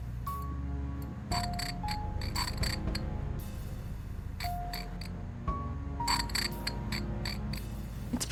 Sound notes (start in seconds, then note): 1.4 scraping creak echoes